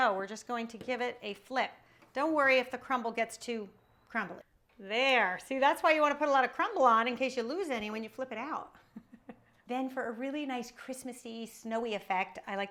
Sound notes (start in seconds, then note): 9.3 laughs